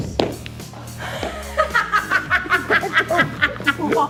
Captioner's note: laughing